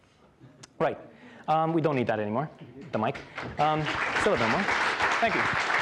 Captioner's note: applause